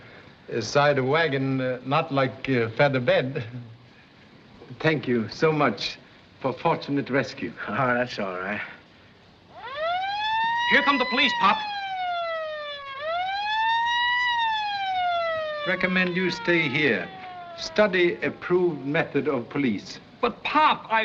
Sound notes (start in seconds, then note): 9.7 siren Wailing